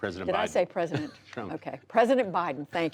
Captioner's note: laughter